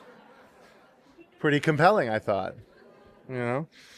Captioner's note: laughter